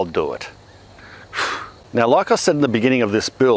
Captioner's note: sighs